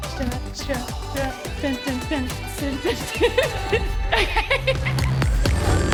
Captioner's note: laughing; upbeat music